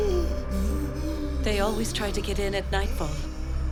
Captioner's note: gasping